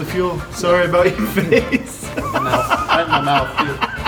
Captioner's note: laughs